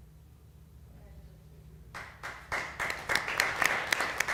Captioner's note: applause